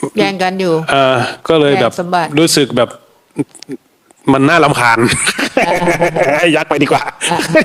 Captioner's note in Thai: เสียงหัวเราะ